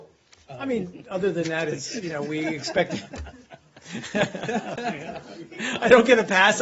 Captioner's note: laughter